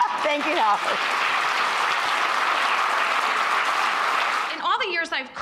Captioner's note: audience laughs; audience applauds